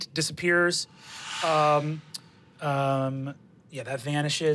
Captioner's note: whoosh